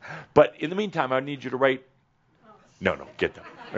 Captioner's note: laughter